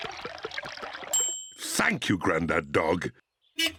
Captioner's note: bell dings; horn beeps